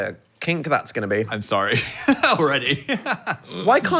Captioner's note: laughs